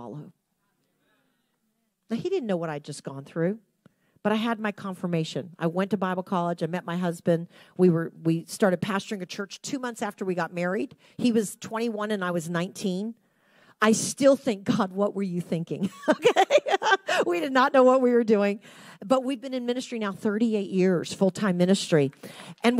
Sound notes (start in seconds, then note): 16.0 laughs